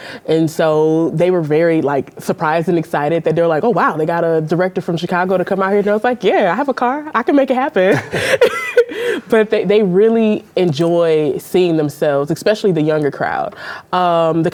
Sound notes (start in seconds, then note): 7.9 all chuckling